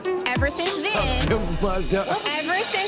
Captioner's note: laughing